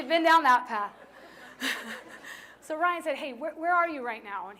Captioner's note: laughter